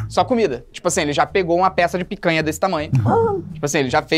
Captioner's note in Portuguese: faz som de surpresa